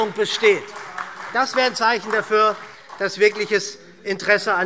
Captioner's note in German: Beifall SPD, DIE LINKE und vereinzelt Freie Demokraten